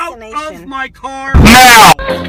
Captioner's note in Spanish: Distorcion x2